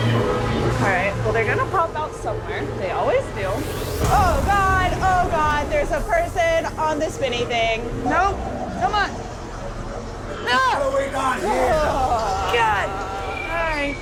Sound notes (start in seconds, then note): 9.3 screams